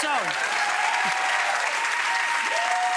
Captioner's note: applause